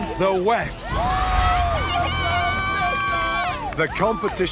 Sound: cheering

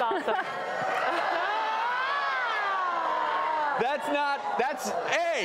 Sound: crowd screaming

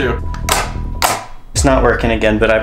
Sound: machine clanks

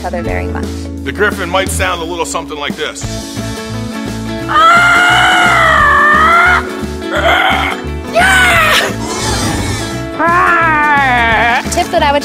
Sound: roars

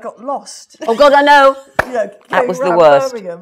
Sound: laughs

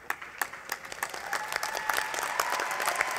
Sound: applause

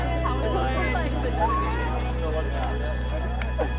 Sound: chattering

